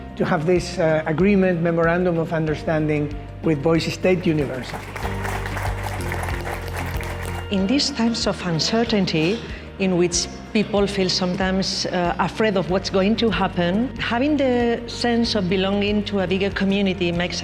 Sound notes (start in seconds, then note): 4.3 audience applauding; 5.4 bright music